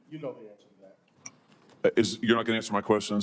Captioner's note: silence